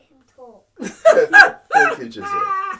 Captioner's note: laughs